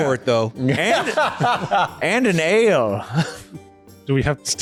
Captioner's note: laughter